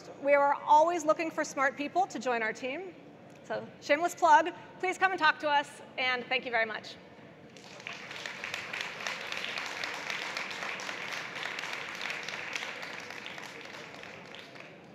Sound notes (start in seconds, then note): 7.5 audience claps